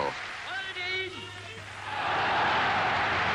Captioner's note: Goebbels speaking in foreign language; crowd cheering and applauding